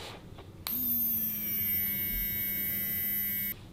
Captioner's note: buzzing